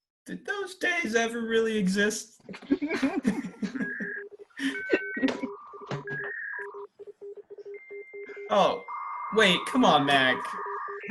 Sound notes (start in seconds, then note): 2.5 HARPER and LEO laugh; 3.3 machine beeping